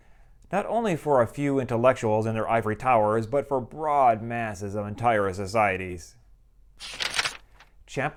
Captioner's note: page turn